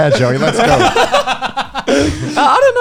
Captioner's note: laughing